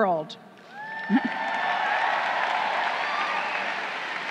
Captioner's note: crowd cheering